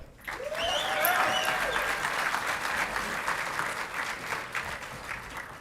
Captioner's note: audience clapping and cheering